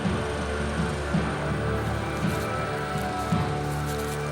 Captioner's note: locusts rustling